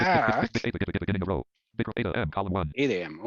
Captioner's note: rapid screen reader audio output